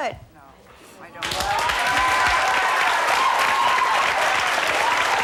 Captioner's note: audience applauds